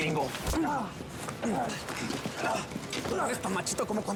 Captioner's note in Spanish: quejidos